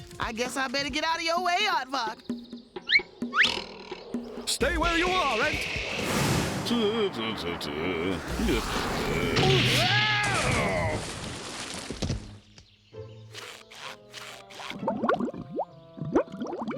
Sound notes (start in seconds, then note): 7.5 humming; 10.2 splash; 13.4 water bubbling